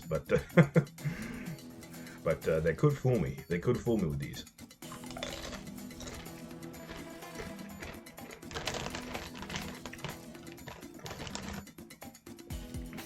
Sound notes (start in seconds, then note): 0.3 chuckle; 4.9 S O L I D crunching